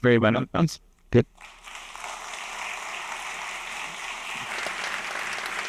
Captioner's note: applause